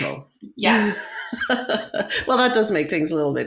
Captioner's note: laughs